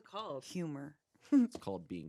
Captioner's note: giggles